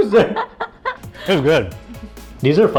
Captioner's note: laughter